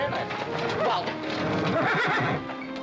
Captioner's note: horse neighing